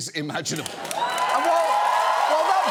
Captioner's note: audience cheers, applauds